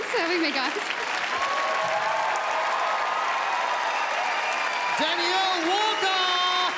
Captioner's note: crowd cheers and applauds